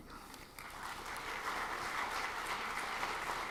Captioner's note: clapping